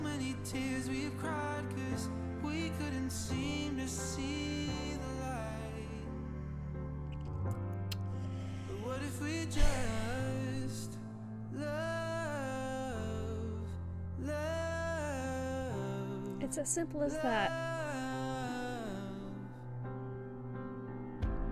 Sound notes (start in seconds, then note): 6.6 sighs; 7.9 clicks tongue